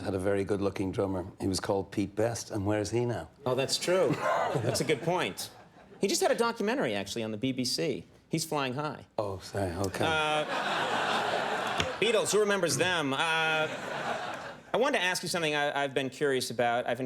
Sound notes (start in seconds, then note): 9.9 laughing